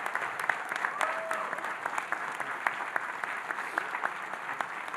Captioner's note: audience applauding